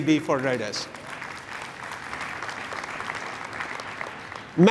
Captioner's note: applause